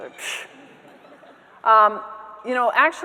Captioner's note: scoffs; audience members laughing